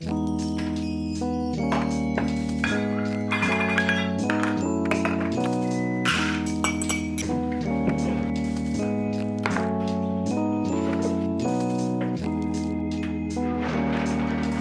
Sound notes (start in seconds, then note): 0.1 gentle music; 6.0 utensils rattling; 11.0 gentle music continues